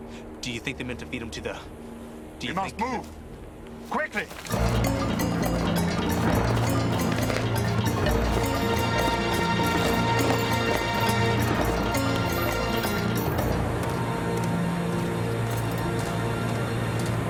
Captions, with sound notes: Do you think they meant to feed him to the beast? - We must move! Quickly! (dramatic orchestral music) (water running) (footsteps)